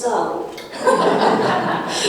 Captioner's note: laughing